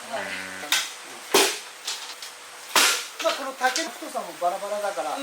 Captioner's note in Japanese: 竹の割れる音